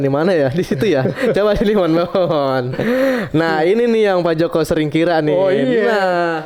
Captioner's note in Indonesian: berdehem